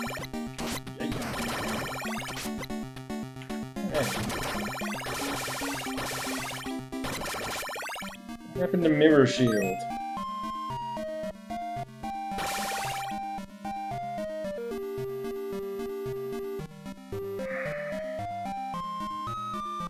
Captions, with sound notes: Hey! Hey! What happened to 'Mirror Shield'? [sighs]